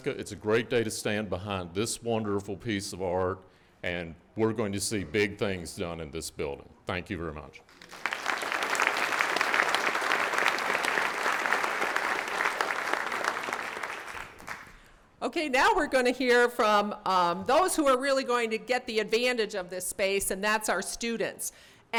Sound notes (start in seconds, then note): 7.7 audience clapping